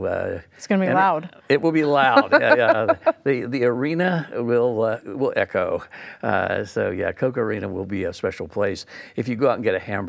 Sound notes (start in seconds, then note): 2.0 laughs